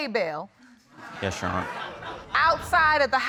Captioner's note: audience exclaiming